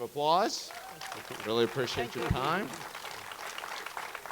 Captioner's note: audience cheering; audience cheering continues